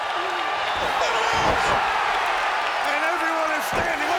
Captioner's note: audience cheers